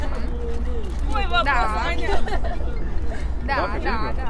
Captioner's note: crowd